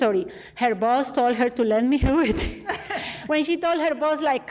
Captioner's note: laughs